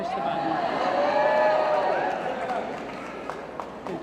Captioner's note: cheering & Applause